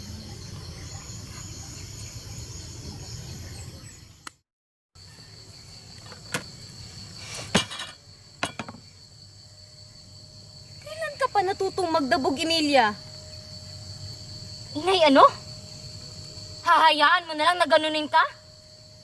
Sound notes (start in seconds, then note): 7.4 thuds